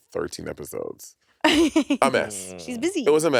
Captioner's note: laughing